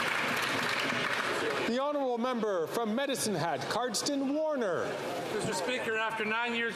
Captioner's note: some Applause